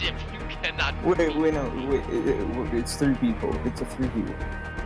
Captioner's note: stutering